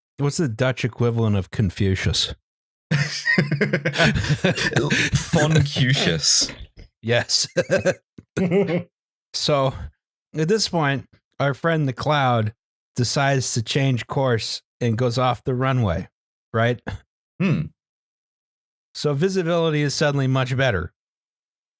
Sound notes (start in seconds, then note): 2.9 laughter; 2.9 laughs